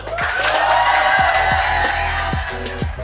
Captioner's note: crowd cheering; soft upbeat music